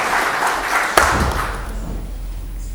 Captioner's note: applause